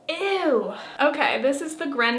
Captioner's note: exclaims